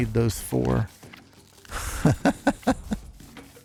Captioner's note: laughs